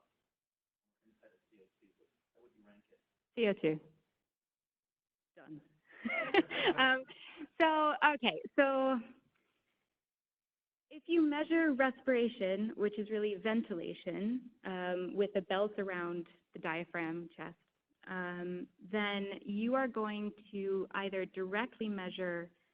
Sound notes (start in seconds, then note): 6.0 laughing